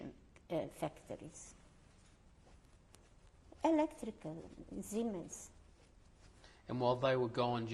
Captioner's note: pauses for 3 seconds